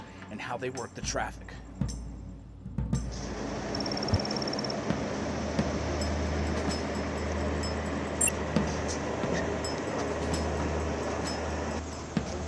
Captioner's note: computer terminal sounds